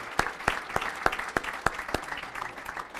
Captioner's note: applause